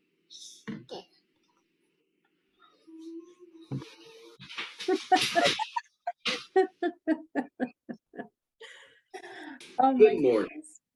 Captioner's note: laughter